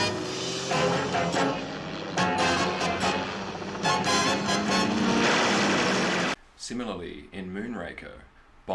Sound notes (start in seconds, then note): 0.0 helicopter noise, car noise, tense music; 0.0 tense music; 4.9 helicopter noise, car noise, rapid gunfire